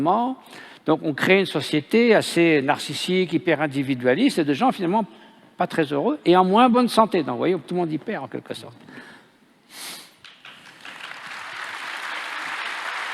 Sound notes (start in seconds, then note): 10.2 applause